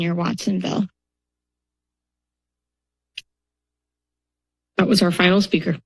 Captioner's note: silence